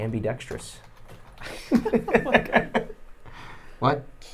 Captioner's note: laughing